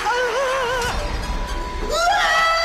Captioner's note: gasps; shrieks; screams